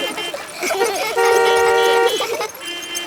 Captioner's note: laughter; beeping